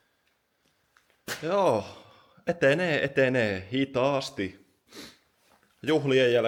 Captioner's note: snort